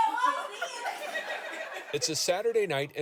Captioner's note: audience laughing